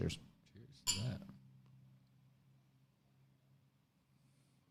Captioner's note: glasses clanks